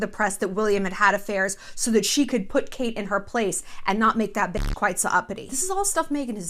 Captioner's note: beep